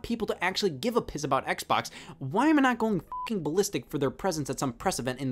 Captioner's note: beeps